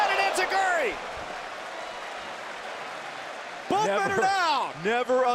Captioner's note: crowd cheering